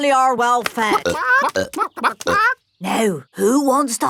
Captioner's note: clucking